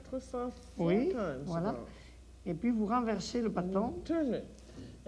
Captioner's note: speaks French